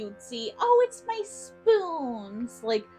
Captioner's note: in a ridiculously sarcastic, high pitched voice